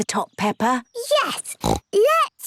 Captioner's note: snorts